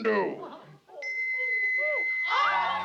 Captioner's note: all exclaiming